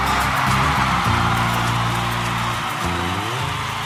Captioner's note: audience cheering